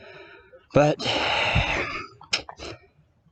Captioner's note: sigh